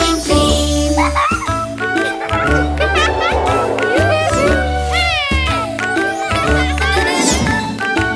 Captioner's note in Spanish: Música Alegre; Risas